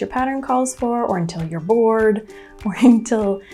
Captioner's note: playfully